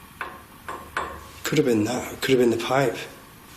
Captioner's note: soft clanging